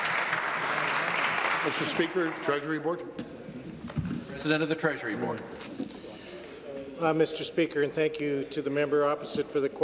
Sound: some Applause

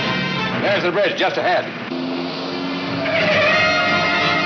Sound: tires squealing

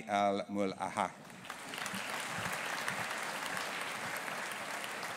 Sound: audience applauding

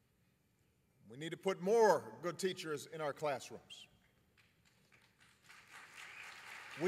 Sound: applause

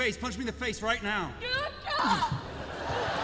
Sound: yelling

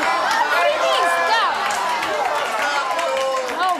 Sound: audience shouting

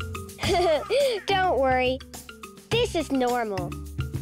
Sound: laughs

